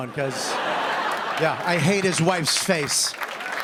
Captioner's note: laughter; cheers and applause